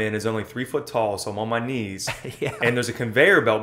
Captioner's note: laughs